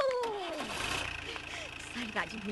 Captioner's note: Jerep Engine Start